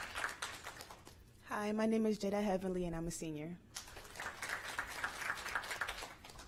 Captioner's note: applause